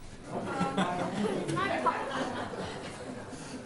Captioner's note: laughter